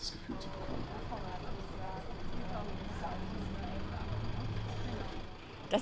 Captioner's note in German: Motorengeräusche, ungenaue menschliche Stimmen